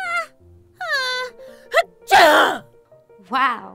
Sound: sneezes

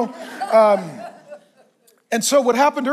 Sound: congregation laughs

